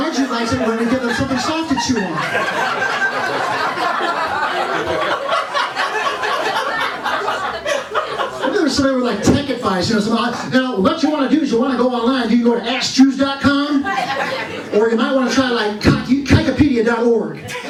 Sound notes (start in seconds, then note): 2.5 laughter; 17.4 laughter